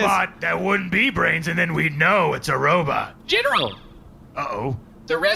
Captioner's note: in a robotic voice